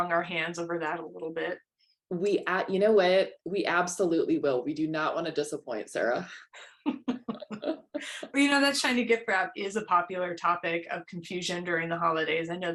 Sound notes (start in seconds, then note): 6.6 laughter